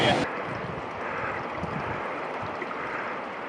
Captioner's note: engine roars